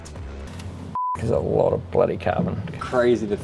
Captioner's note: beep